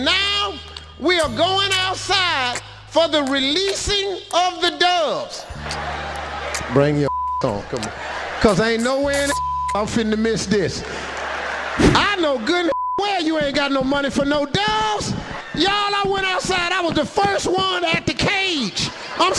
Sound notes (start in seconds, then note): 5.5 audience laughing; 9.1 beep; 10.6 audience laughing; 12.7 beep